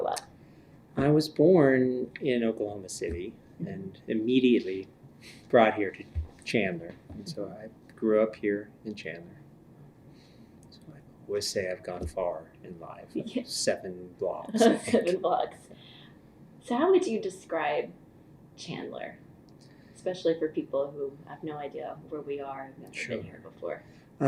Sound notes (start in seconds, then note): 14.5 laughter